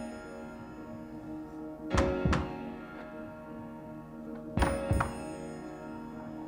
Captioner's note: rhythmic tapping